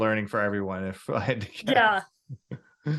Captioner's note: laughs